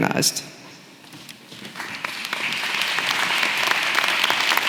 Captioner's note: applause